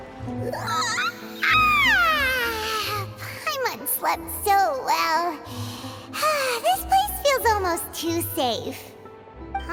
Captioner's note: yawn